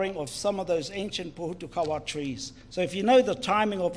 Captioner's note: speaks in foreign language